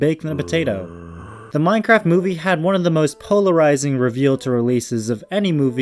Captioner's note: zombie sound effect